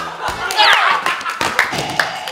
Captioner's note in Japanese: 効果音